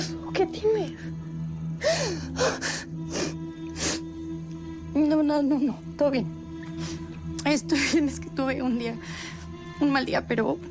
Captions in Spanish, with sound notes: - ¿Qué pasó? ¿Qué tienes? [Solloza] - No, no, no, todo bien. Estoy bien. Es que tuve un día... un mal día,